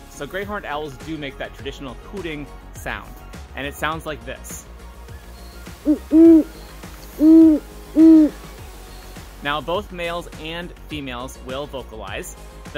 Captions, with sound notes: So Great Hornd Owls do make that traditional hooting sound and it sounds like this: *Great Horned Owl vocalization plays* Now both males and females will vocalize.